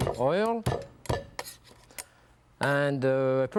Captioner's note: knife knocking